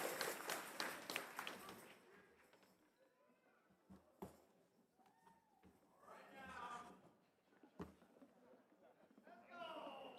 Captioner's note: cheers and applause